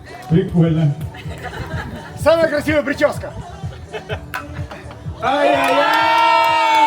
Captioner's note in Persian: خنده